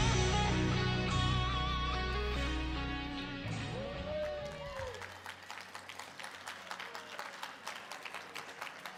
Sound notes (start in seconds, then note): 3.6 audience applauding